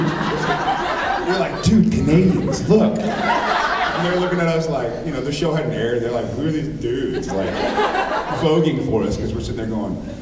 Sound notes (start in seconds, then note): 0.0 laughs; 2.9 laughs; 7.0 laughs